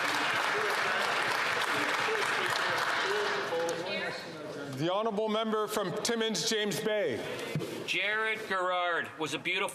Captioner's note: some Applause